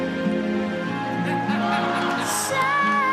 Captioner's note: laughter